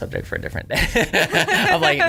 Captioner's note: laughter